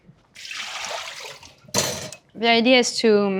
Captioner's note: water sloshing; bowl thuds